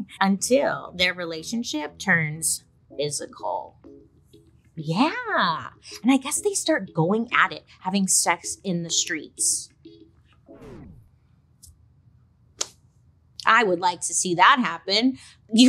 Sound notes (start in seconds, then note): 4.8 funky music; 10.6 record scratches